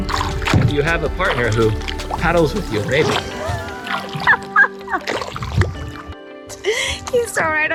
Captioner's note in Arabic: يضحك